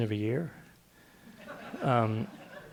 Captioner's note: laughter